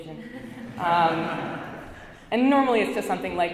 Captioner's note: audience laughs